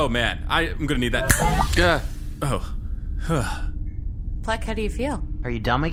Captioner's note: snaps fingers, sighs in relief